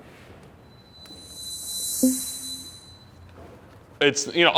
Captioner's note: eerie ringing